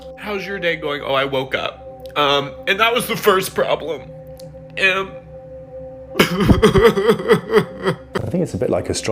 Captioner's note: sobbing